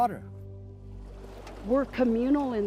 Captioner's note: water pours